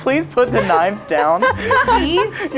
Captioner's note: laughing